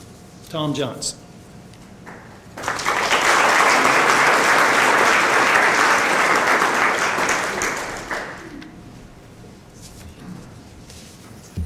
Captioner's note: applause